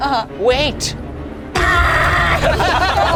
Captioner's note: yells; group laughs